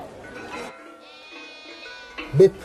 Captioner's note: goat bleating